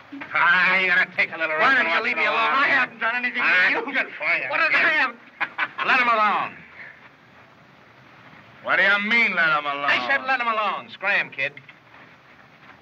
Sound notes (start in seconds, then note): 5.3 laughs